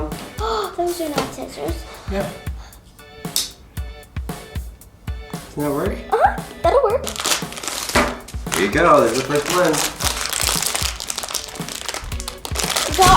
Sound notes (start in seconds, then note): 7.0 plastic ripping